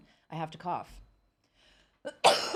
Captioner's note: coughing